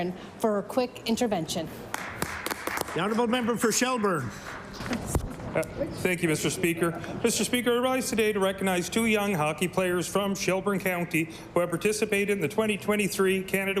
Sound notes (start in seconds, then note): 4.7 applause